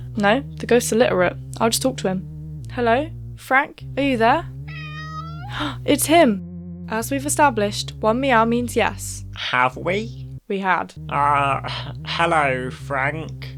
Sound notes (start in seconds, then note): 5.7 gasp